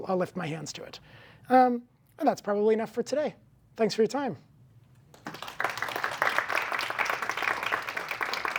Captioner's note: applause